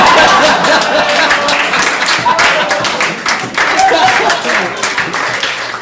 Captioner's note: audience laughs, applauds